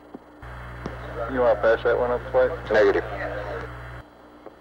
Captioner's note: mission Control Audio